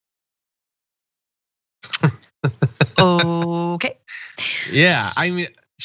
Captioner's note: laugh